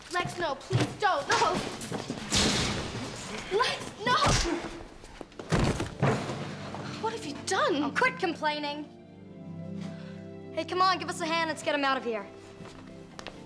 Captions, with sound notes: Lex, no, please don't, no. Lex, no. (grunting) What have you done? - Oh, quit complaining. Hey, come on, give us a hand. Let's get him out of here.